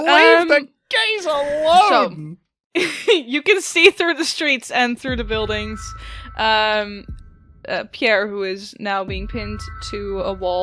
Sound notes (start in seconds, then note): 0.0 laughing; 3.5 still laughing